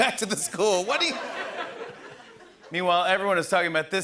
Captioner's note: laughter